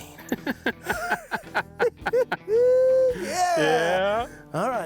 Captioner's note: laughing